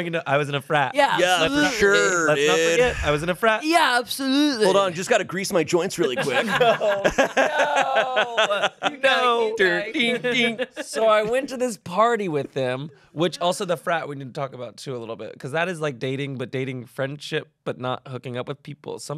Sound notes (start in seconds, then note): 5.9 everyone laughs